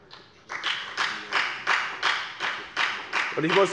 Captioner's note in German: Beifall bei der FDP